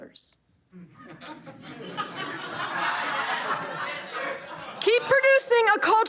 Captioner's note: audience laughter